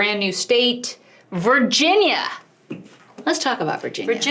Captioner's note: hand hitting table